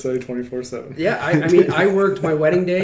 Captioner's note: laughs